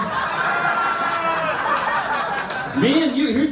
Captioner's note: laughter